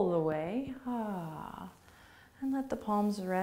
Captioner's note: sighs